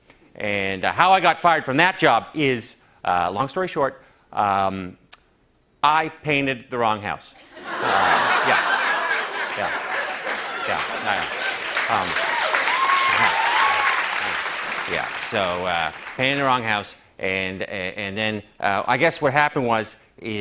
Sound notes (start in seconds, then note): 7.4 laughter; 10.9 cheers and applause